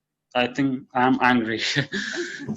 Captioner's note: laughs